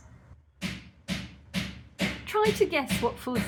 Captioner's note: hammering